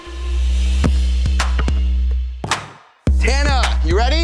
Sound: ball bounces

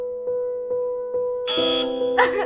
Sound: angery buzzer noises; intense dramatic sobbing

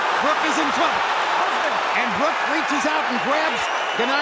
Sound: crowd roars

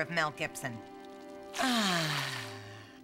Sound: sighing

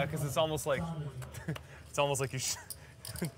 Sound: laughs; laughs

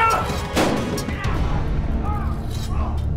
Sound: gun shot

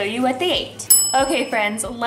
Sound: bell dings

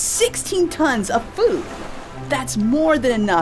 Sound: water splash

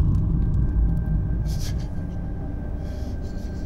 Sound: shudders

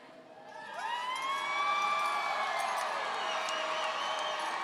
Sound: audience cheering

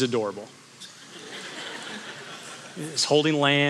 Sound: congregation laughing

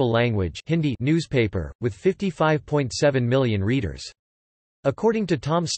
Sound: Hindi

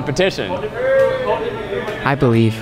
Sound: employees cheering

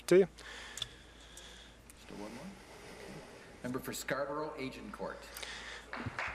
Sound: some Applause

